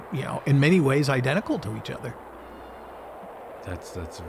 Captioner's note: rocket roaring